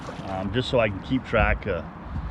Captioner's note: fish splashing